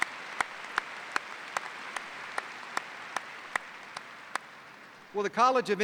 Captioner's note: applause